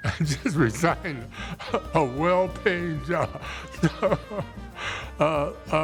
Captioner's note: laughs